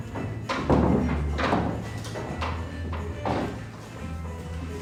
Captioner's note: none